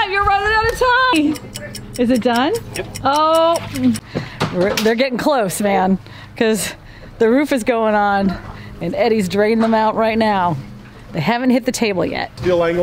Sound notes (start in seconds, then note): 1.0 clock ticking